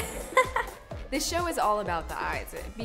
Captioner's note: laughing